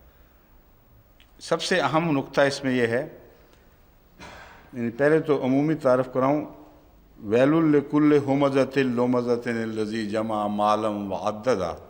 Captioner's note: Arabic